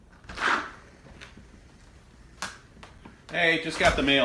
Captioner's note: door slams